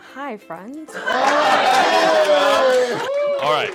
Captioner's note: cheers